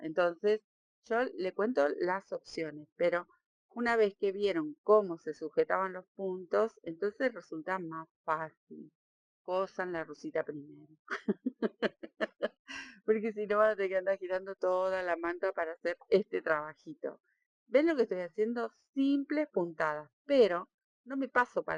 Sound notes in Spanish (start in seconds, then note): 11.1 risas